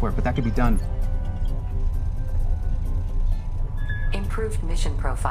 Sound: digital sounds

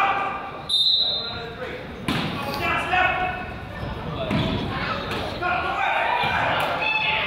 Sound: whistle blows; coach yells

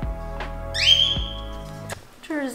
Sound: Leo chirps; kisses

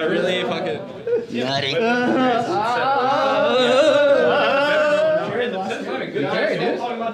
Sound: cheering and excited chatter

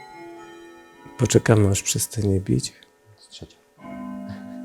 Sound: bell rings

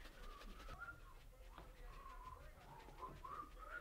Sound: scrubbing; whistling

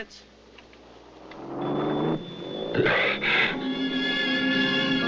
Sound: car engine running; gentle instrumental music

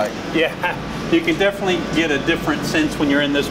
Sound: chuckles

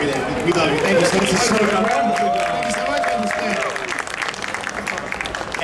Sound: audience cheering

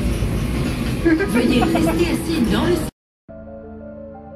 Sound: laughs; sci-fi music

